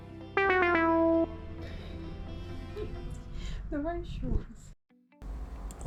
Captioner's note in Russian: смех